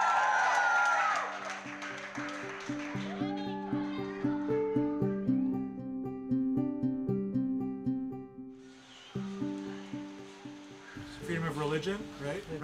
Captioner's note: applause